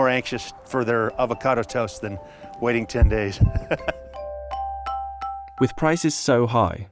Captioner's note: laughs